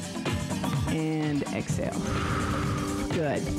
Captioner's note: breath hisses